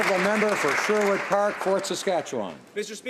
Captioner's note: applause